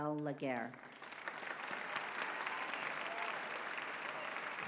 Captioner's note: applause